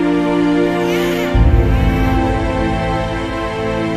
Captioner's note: baby crying